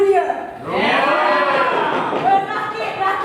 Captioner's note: animals cheer